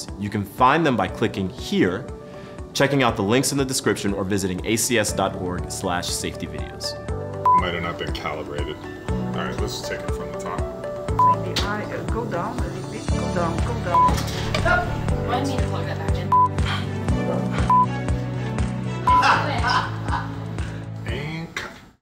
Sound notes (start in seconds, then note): 11.1 recorder beeping; 13.8 recorder beeping; 16.3 recorder beeping; 19.1 presenter laughing